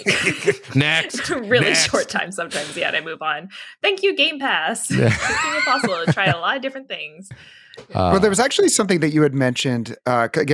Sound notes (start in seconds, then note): 0.0 chuckling; 4.9 laughs